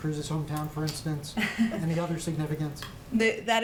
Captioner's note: laughs